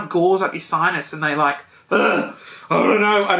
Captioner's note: groans